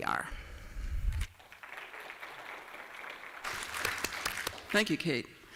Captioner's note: applause